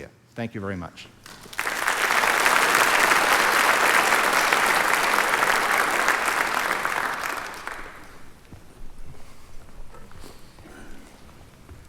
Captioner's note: applause